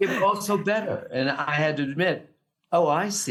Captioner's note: laughs